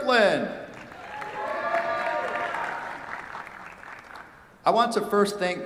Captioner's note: cheers, applause